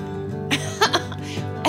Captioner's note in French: rires